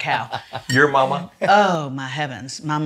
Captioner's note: laughs